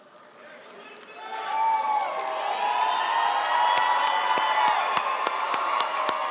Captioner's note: audience cheering and applauding